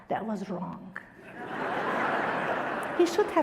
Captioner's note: audience laughter